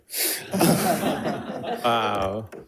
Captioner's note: audience laughing